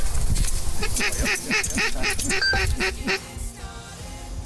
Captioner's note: duck quacking